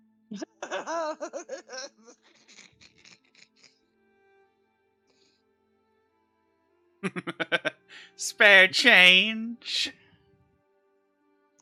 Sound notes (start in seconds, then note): 0.2 cackling; 7.0 laughing